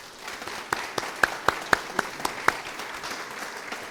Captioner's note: audience applause